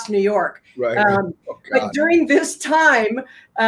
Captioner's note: laughs